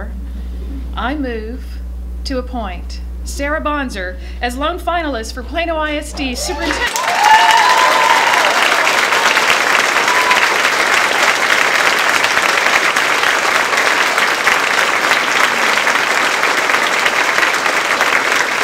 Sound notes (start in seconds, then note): 6.2 cheering; 6.4 applause